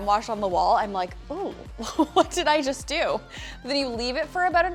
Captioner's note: laughs